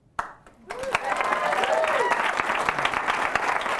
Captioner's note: applause